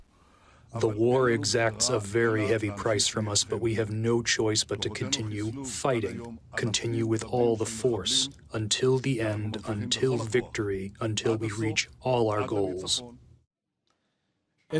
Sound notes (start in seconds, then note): 1.5 through translator